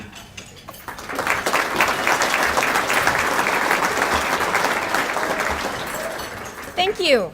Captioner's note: applause